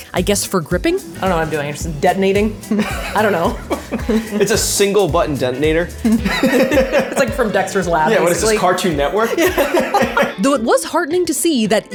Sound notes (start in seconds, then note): 2.6 laughing; 9.7 both laughing